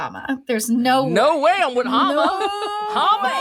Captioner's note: laughs